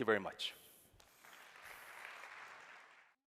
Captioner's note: applause